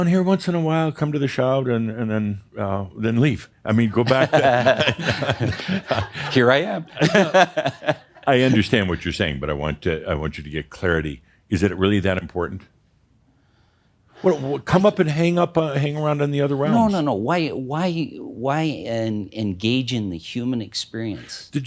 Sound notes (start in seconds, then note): 3.9 they chuckle; 6.6 he chuckles